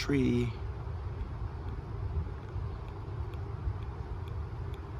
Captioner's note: pen clicking